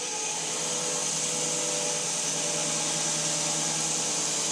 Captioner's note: mill whirring